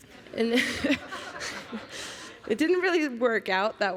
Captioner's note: laughter